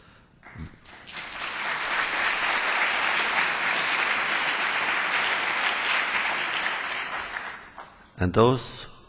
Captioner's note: applause